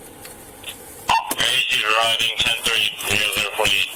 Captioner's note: radio chatter